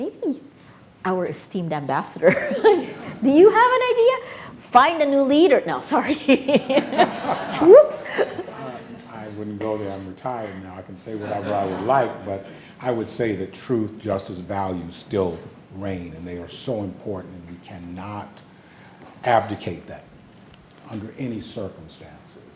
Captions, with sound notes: Maybe our esteemed Ambassador, do you have an idea? Find a new leader. No, sorry. (everybody laughing) Oops. - I wouldn't go there, I'm retired now, I can say whatever I would like but I would say the truth, justice values still reign and they are so important and we cannot abdicate that under any circumstances